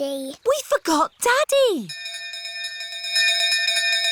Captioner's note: bell continues dinging